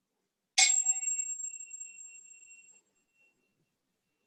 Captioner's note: taps on a glass bottle